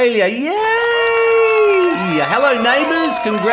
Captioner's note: crowd applauding